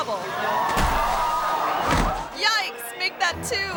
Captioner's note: audience gasps; performer thuds